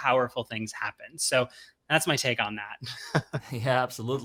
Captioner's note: chuckles